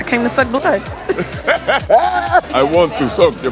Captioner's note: laughing